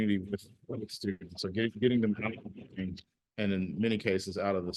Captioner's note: audio stutters